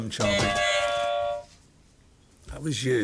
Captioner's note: buzzer